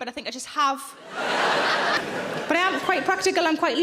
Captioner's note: audience laughing